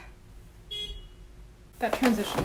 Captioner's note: car honks